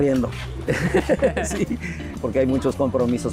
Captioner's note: laughs